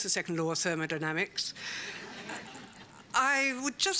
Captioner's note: laughter